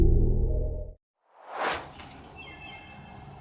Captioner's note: eerie music; swoosh; birds chirping